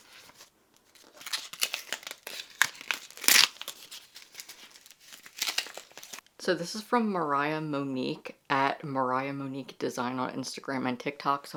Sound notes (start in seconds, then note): 6.3 paper ripping